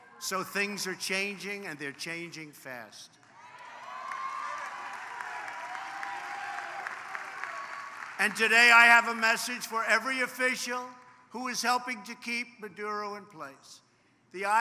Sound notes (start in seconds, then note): 3.2 applause